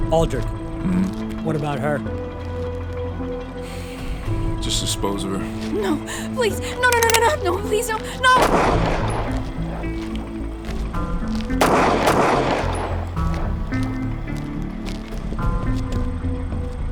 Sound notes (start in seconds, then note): 11.6 gun banging; 13.4 tense music continues